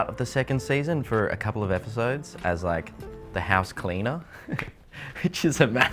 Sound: laughs

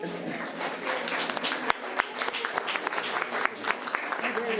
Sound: audience applauds

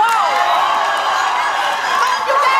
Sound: audience yells

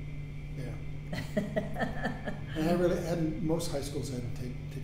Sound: laughing

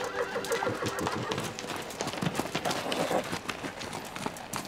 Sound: horse neighing

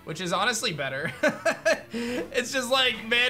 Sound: laughs

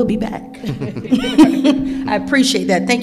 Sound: chucking

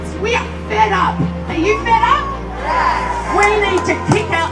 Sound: crowd

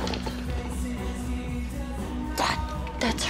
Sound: whispering

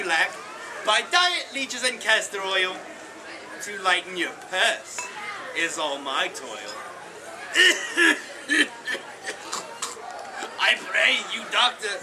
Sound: coughing

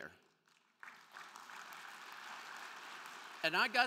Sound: crowd clapping

